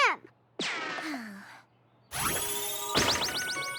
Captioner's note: sighs; tinkling